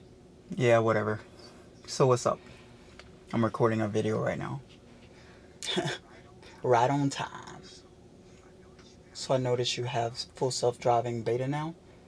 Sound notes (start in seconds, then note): 6.4 laughs